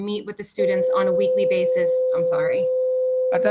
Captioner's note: loud tone